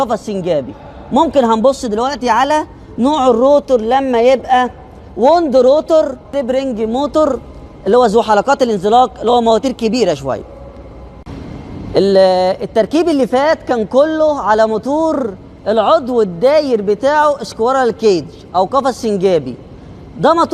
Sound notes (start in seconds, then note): 10.4 big motors